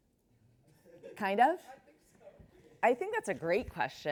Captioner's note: chuckles